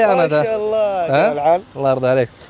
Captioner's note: Arabic